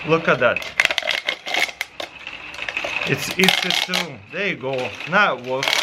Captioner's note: weaving plastic